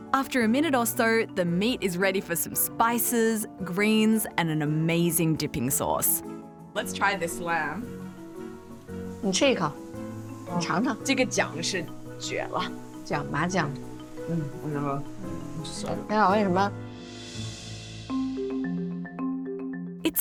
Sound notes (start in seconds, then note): 9.7 speaking foreign language; 17.7 mystical music